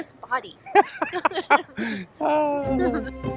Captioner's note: both laugh; upbeat music